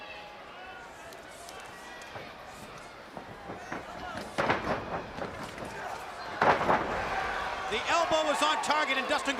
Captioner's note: crowd chatter